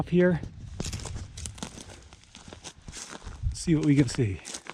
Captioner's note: gravel crunching